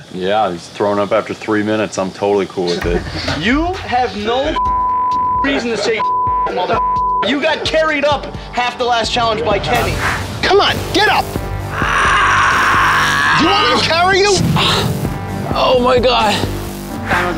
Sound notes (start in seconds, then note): 4.4 beep; 11.7 screams loudly